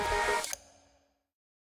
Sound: click

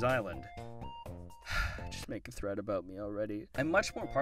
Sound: sigh

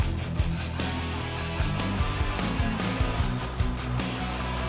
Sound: upbeat rock music continues; machine hissing

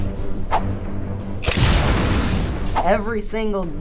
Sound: dramatic music; explosion

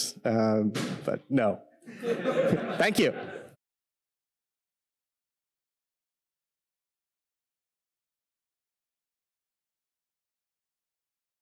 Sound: audience laughter

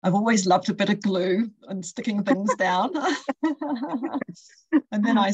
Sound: laughter

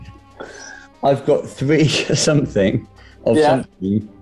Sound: laughs

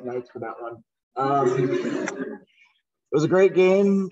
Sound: laughter

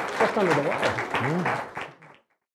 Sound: audience applause

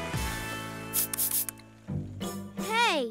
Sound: swooshing

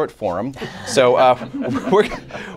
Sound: laughter

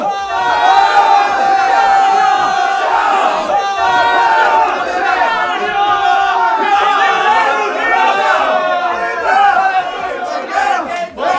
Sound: yelling and cheering

